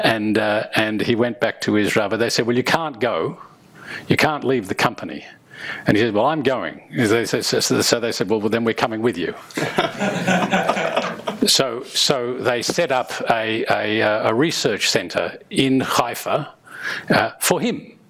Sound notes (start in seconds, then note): 9.5 crowd laughing